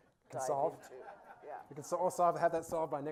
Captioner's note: laughing